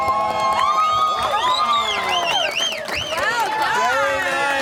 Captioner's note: cheering